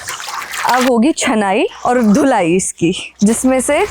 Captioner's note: washing and cleaning